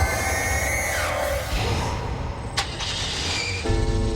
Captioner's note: high frequency wave; car engine starting